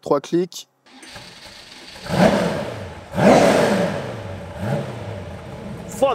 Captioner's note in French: Bruit moteur